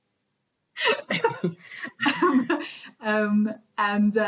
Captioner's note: both laughing